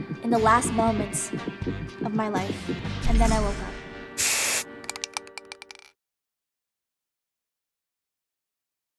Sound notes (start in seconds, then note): 4.2 paint spraying